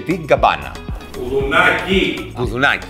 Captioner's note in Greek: φωνάζει